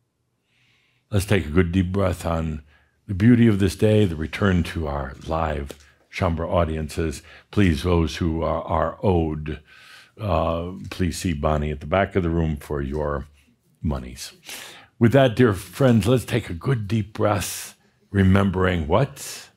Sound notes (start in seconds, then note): none